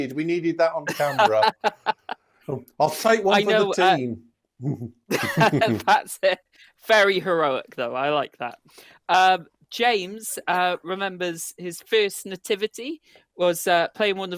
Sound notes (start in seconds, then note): 0.6 laughs; 5.1 laughter